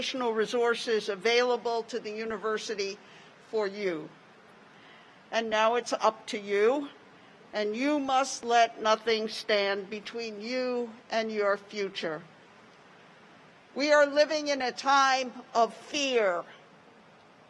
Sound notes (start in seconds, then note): none